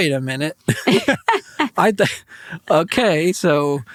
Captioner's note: group laughs